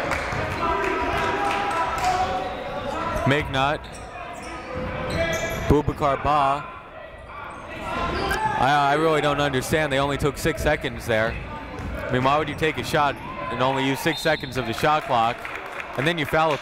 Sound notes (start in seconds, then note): 6.1 whistle blowing; 10.3 shouting